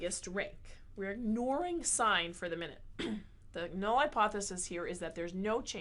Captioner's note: cough